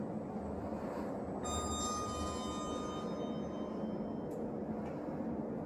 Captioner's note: chime